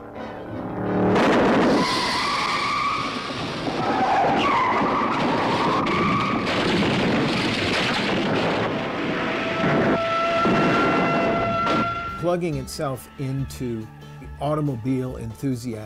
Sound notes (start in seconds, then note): 0.0 engine rumbling; 0.8 tires squealing; 7.5 car crashing; 8.1 siren wailing